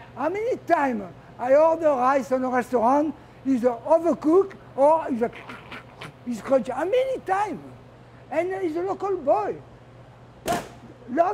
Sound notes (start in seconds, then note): 4.6 crunchy noises